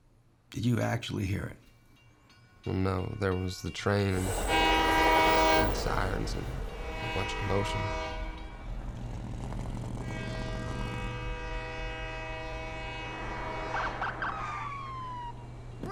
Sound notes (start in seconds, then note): 4.1 flashback to train horn; 8.7 train horn, truck engine whirring; 13.7 train horn, police sirens